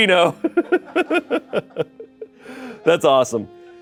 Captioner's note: Shayne laughs